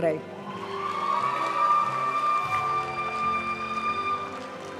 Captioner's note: audience cheering and applauding; graduation music